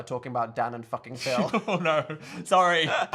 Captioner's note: Phil laughs